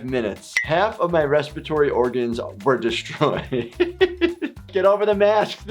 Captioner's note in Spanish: risas